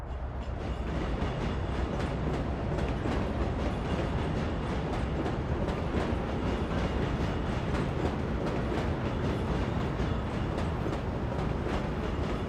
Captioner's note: train passing